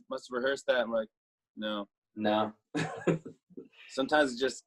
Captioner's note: chuckles